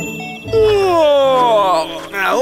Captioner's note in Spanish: Sonido de bostezo